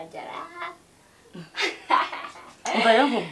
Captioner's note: laughing